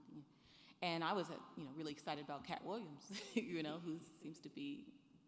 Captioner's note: chuckles